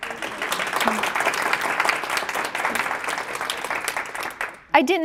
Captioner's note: applause